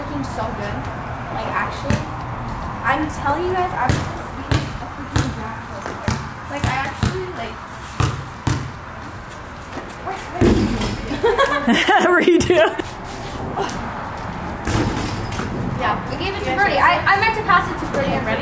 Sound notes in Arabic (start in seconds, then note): 3.7 ترتد الكرة; 11.0 فتاة تضحك; 11.0 يضحك